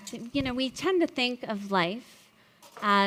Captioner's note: none